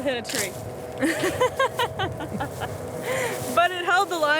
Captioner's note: laughs